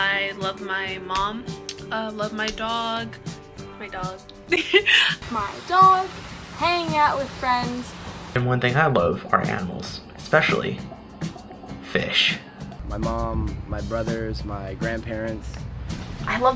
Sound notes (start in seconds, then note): 4.4 laughs